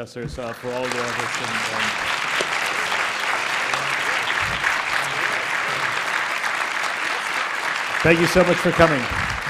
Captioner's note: applause